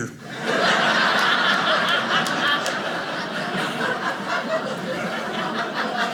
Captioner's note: audience laughing